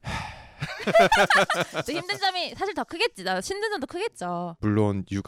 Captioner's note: A sigh loaded with so much meaning